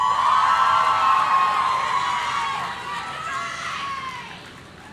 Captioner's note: audience cheering